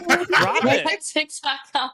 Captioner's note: laughing